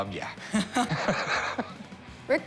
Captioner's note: laughs